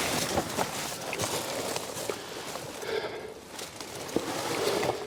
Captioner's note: noisily moving through the brush